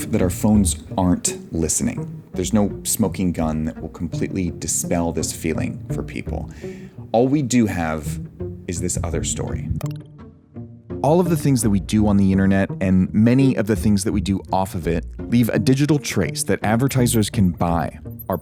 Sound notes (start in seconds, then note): 9.8 mouse clicks; 10.0 dramatic music continues